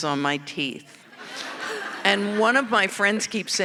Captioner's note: audience laughing